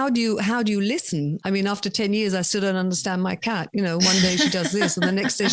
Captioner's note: laughs